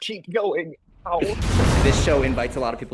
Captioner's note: lightning zapping